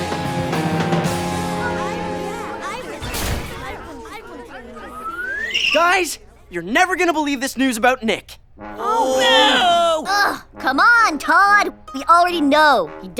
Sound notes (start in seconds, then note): 1.0 glum chatter; 8.8 uninterested groans